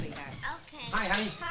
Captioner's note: door opening